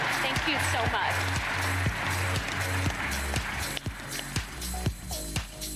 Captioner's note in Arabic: تصفيق